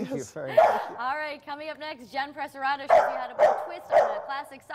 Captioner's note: dog barking